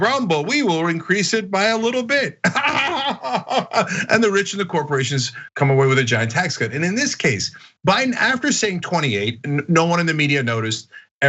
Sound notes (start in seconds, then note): 1.9 laugh